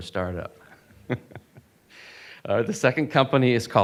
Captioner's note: laughing